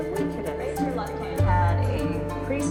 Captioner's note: none